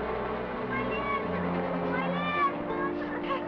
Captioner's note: sobs